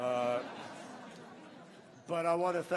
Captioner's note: laughter